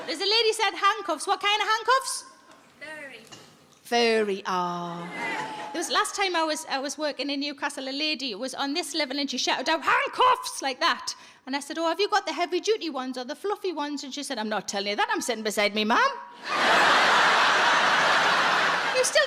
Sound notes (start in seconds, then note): 0.0 audience laughs; 5.0 audience laughs; 16.4 audience laughs